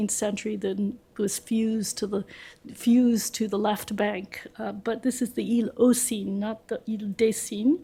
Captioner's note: french; french